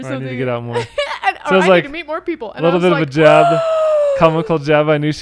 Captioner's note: gasps